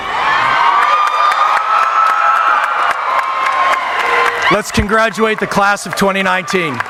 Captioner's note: cheering; audience applauding